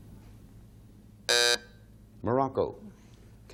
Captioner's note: buzzer sounding off